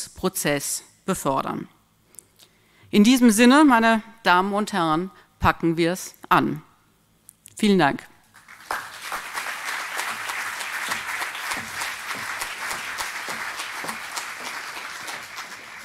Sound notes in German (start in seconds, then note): 8.3 applaus